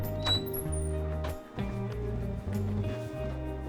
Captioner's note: door creaks